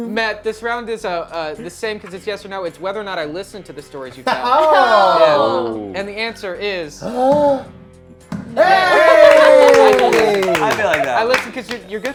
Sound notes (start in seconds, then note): 4.9 groans; 8.6 claps